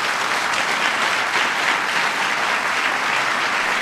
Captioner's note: applause